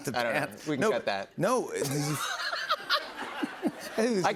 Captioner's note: both laugh